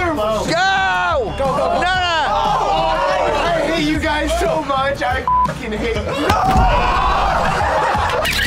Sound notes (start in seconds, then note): 2.0 group roars; 7.1 laughter